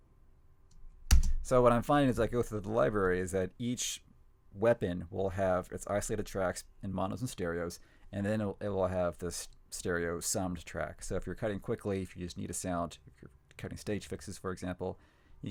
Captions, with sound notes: (keyboard clicking) So what I'm finding as I go through the library is that each weapon will have its isolated tracks and monos and stereos, and then it will have the stereo summed tracks. So, if you're cutting quickly, if you just need a sound, if you're cutting stage fixes, for example,